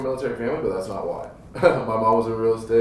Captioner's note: laughs